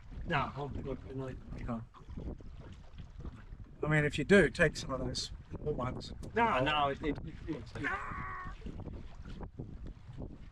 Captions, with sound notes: No, I'm good tonight. Okay. I mean, if you do, take some of those. No, no, it's good. [screams]